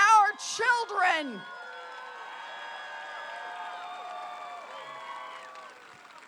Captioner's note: applause